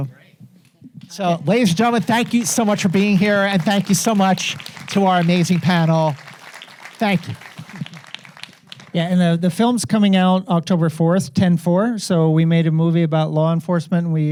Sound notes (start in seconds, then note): 7.2 audience applauding